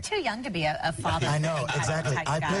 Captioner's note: laughing